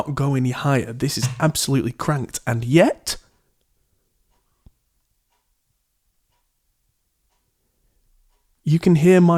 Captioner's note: clock ticking faintly